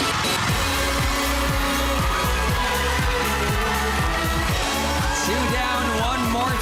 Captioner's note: applause, cheering